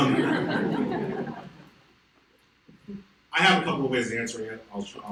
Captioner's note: audience laughs